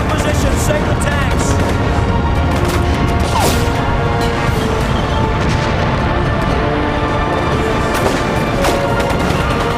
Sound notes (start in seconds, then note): 2.5 dramatic orchestral music; 2.5 guns firing